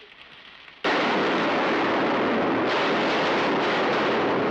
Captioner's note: gunshots